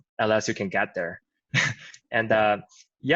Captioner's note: chuckles